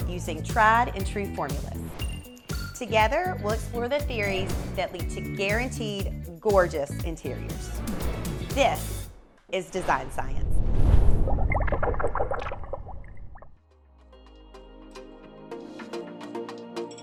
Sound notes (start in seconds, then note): 9.7 screen whooshing; 11.2 liquid gurgling; 13.6 lively music